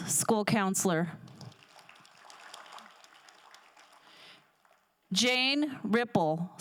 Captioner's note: crowd applauding